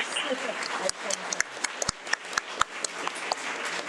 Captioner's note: audience clapping